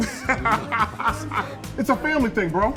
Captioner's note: laughing